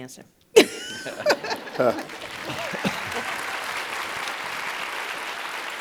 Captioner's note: audience applauding